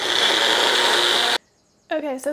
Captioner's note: blender sound